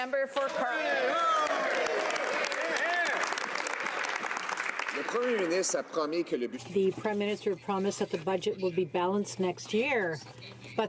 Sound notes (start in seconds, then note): 1.1 speaking French; 4.8 some Applause